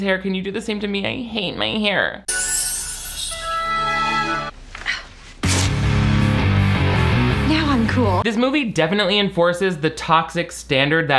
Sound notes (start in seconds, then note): 2.2 magical bells ring; 5.4 rock music